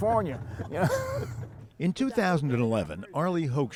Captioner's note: laughter